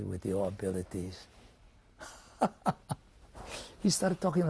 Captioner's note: laughs